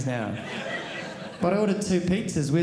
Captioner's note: audience laughing